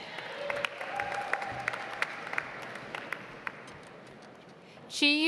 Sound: audience applauds

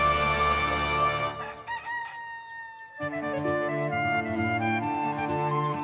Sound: rooster crows

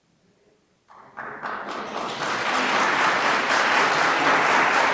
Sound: audience applauds

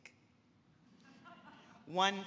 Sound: audience laughing

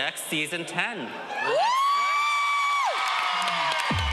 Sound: audience cheering

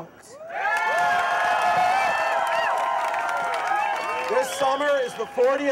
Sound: crowd cheering

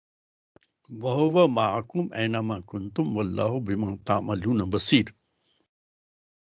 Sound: recites arabic

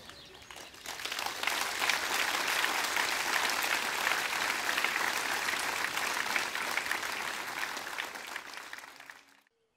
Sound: applause

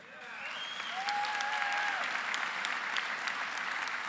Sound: applause

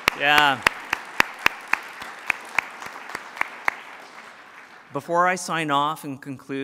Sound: applause

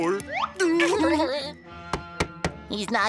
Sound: laughing; knocking

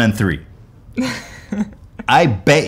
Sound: giggles

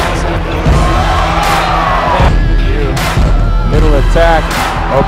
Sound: cheering

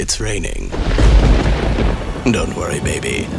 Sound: thunder rumbling

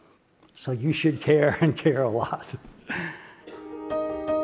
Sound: laugh

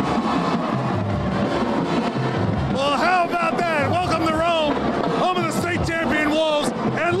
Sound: cheering

